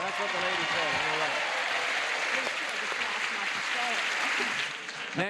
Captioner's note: applause